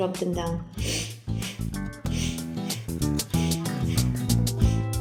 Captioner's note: breathing deeply